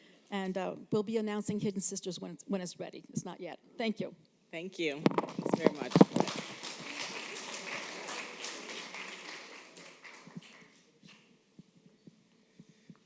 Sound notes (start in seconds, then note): 6.7 applause